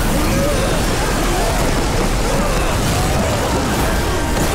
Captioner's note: screaming